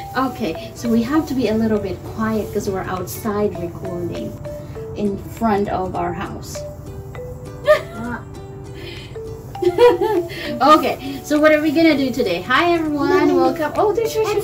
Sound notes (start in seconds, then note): 9.5 giggling